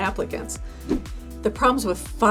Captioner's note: air whooshing